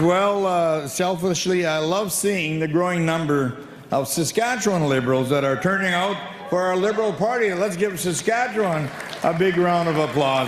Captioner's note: applause